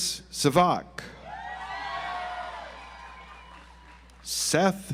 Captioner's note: audience applauds